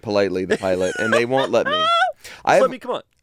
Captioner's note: laughs